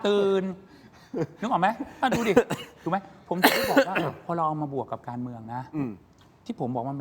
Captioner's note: laughs